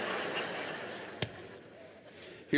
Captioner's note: laughter